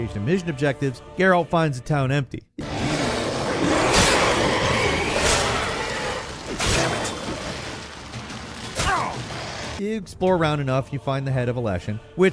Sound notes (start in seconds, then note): 2.6 monsters roaring; 3.0 swords slicing